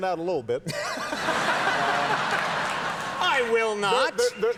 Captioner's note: audience laughing